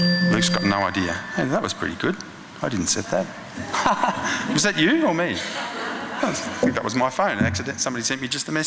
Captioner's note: laughing